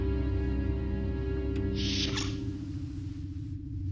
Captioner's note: doors open